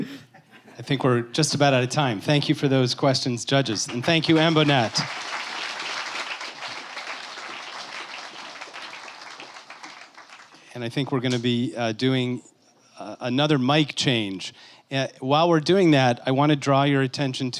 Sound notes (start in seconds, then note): 3.6 applause